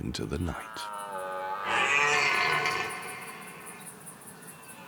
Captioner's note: stag roars